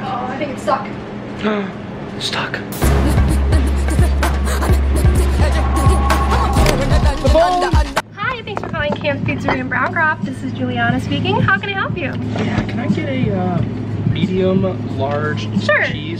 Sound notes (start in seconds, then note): 2.7 meme Sound; 6.2 phone rings